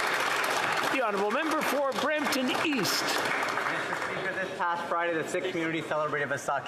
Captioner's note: speaking French